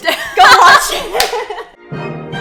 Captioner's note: laughs